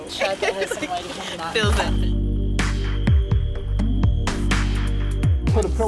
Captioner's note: she laughs